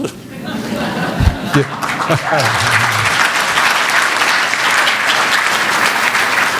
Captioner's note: applause